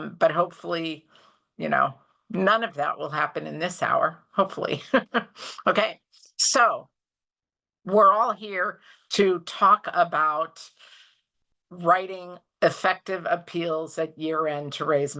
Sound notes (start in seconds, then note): 4.8 chuckles